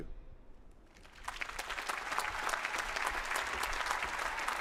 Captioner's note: applause